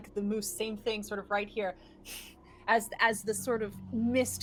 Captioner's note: exhales